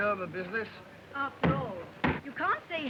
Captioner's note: chopping